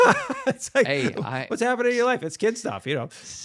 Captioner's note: both laughing